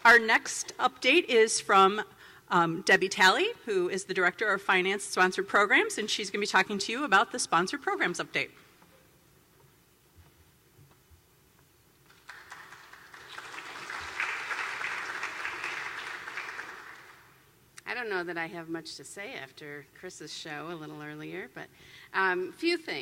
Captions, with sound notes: Our next update is from Debbie Talley who is the Director of Finance, Sponsored Programs, and she's going to be talking to you about the Sponsored Programs update [clapping]. I don't know that I have much to say after Chris' show a little earlier,